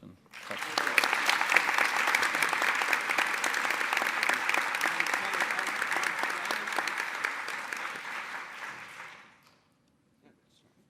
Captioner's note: applause